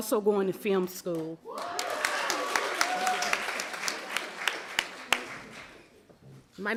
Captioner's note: applause